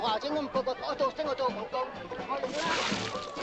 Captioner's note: Ching speaking Chinese